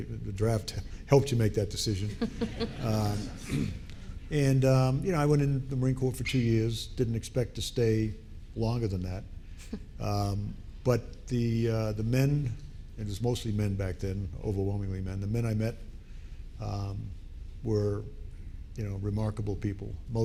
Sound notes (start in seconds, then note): 2.1 audience laughing